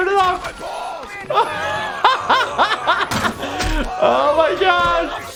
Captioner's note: laughs